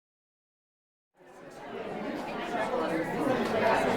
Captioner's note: audience chatters